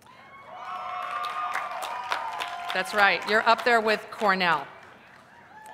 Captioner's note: cheers